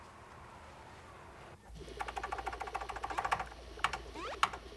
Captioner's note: typing; video game beeping